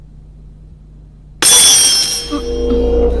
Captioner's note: thuds